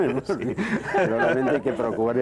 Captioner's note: Risas